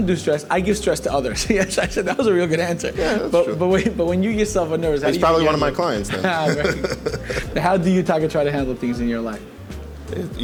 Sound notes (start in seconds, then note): 5.0 laughing